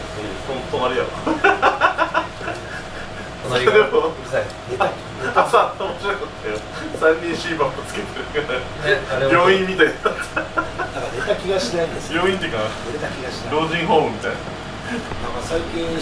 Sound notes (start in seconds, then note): 1.2 laugh; 9.5 laugh